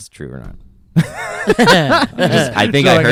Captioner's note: laughs